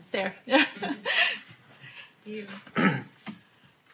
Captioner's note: laughs